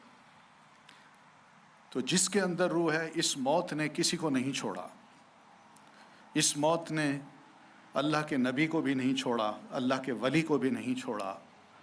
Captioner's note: speaking urdu